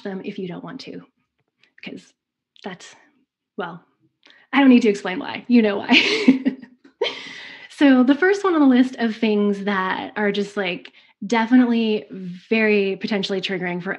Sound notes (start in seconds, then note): 5.7 laughs